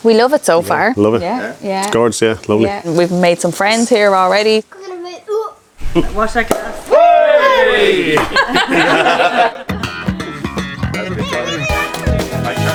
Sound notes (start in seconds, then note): 6.5 everyone cheers; 7.4 everyone laughs; 9.7 upbeat music